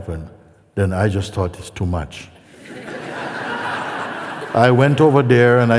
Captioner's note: laughter